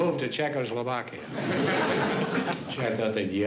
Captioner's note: chuckles